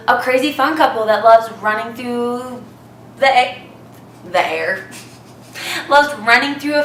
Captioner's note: laughs